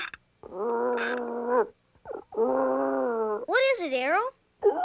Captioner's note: howling